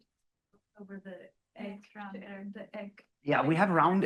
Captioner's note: student speaking faintly